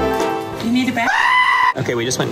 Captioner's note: scream